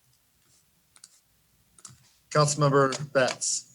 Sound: mouse clicks

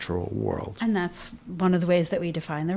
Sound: voiceover

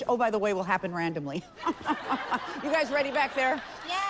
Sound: laughs

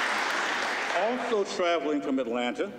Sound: applause

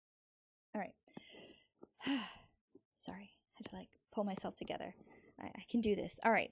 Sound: sighs

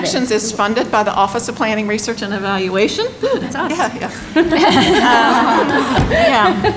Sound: laughter

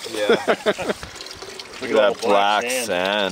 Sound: laughing

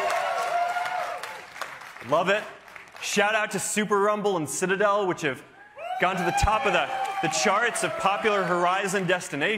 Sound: cheers and applause

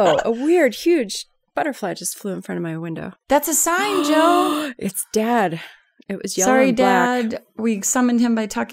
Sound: gasp

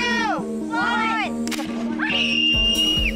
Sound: loud popping noise; girl screams

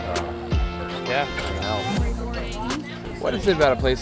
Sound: crowd chattering

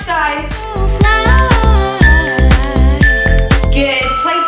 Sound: timer beeping

